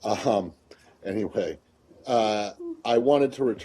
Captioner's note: laughter